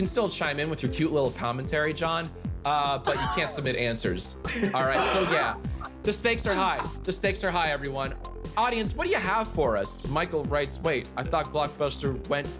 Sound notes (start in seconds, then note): 4.4 chuckling